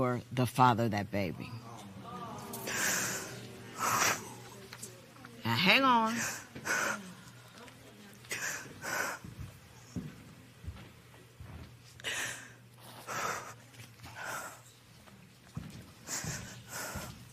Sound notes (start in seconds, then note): 1.4 spectators murmur; 4.2 crying